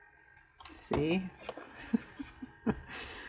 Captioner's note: laughs